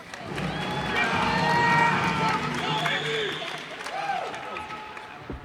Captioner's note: cheers and applause